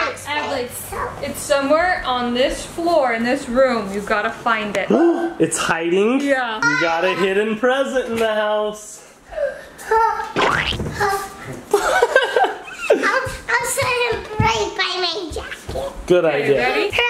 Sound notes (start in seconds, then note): 5.4 gasps; 10.4 toy squelches; 11.7 laughs